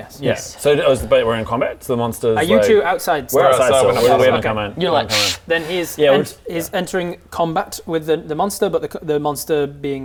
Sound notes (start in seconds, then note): 5.0 puff